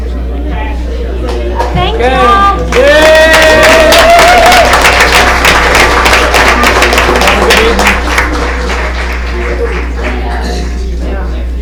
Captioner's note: applause